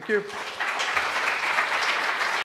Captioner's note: applause